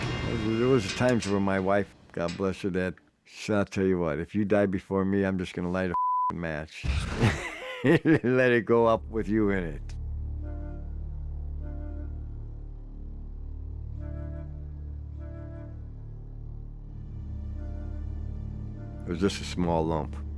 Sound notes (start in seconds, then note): 7.0 laughs; 9.0 dramatic music